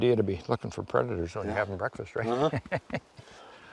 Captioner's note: laughs